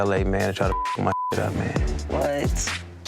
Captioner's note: beep